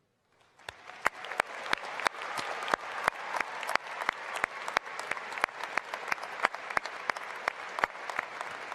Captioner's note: applause and cheering